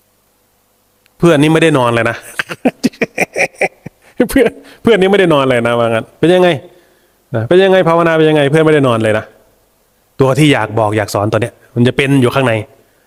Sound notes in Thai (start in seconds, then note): 2.2 เสียงหัวเราะ